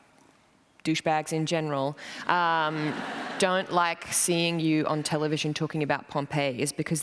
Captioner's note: laughter